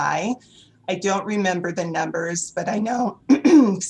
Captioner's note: coughs